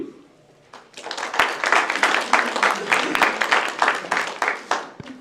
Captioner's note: applause